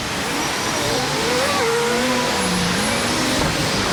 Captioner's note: traffic whining and whizzing